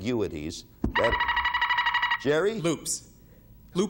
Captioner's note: buzzer beeping